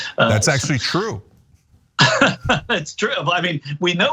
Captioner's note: laugh